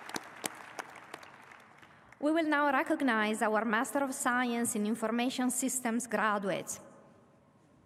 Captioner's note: applause